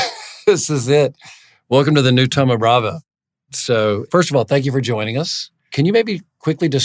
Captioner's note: laugh